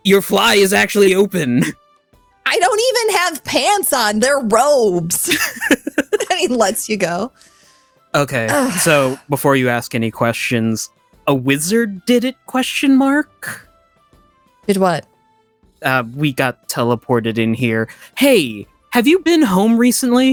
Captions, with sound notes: Your fly is actually open. I don't even have pants on. They're robes. (Laughs) I mean, let's you go. Okay, so before you ask any questions, a wizard did it, question mark? Did what? We got teleported in here. Hey, have you been home recently?